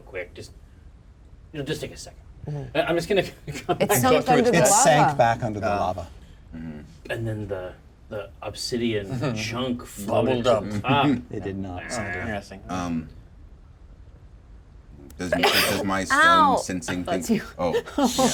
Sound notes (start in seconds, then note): 15.4 sneezes